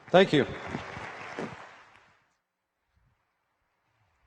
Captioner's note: applause